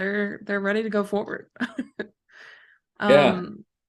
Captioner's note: laughter